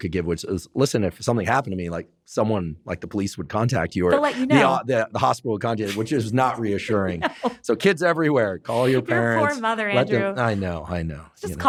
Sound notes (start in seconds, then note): 5.8 laughs